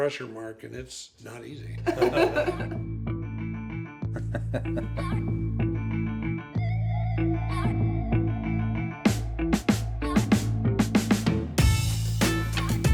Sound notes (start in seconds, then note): 1.9 laughs; 5.8 upbeat music